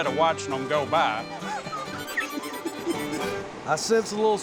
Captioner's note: laughs